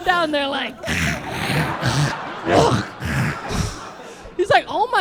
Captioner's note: saliva noises